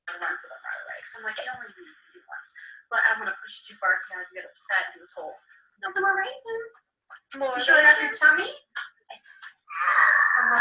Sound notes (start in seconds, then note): 0.9 disembodied Female Voice